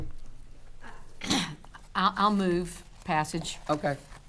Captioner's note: coughs